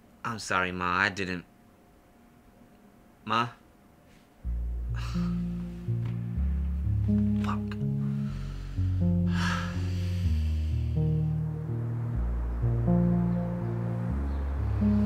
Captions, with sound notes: I'm sorry ma, I didn't (silence) Ma? (sighs) Fuck!